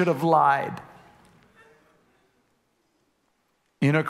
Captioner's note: congregation laughing